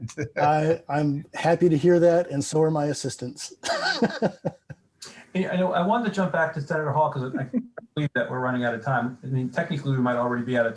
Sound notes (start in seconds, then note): 3.6 chucking